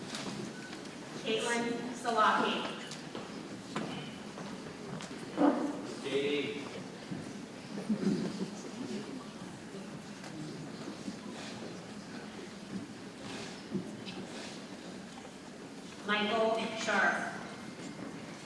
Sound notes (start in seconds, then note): 3.6 people chattering softly; 18.2 people chattering softly